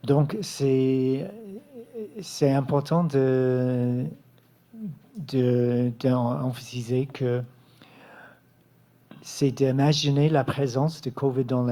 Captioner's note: speaking French